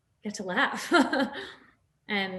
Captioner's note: Nasim laughs